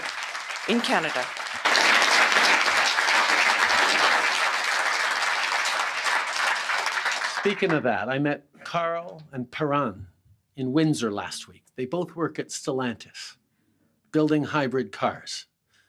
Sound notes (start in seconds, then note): 7.0 applause